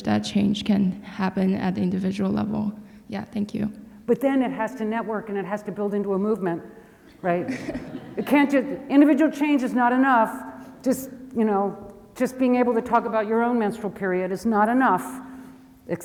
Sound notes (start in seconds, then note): 7.4 audience laughs